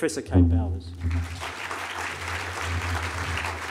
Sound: applause

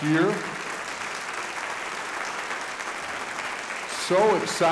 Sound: audience applauding

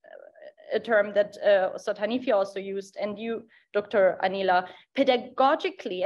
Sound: speaks in Dari

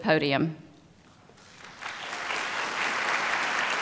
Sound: applause

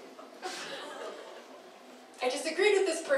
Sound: laughing

